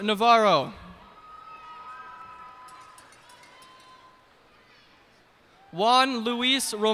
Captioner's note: cheers and applause